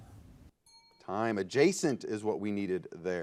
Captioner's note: ding